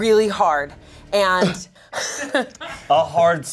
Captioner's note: laughs